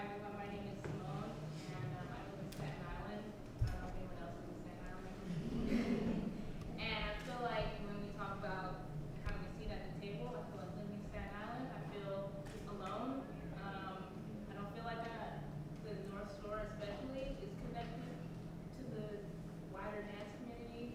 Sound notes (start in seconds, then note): 5.2 laughs